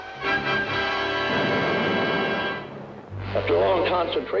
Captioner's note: explosion